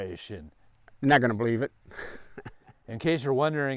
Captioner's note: chuckles